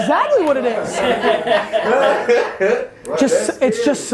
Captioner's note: group laughs